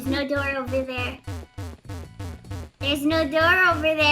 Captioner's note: video game noises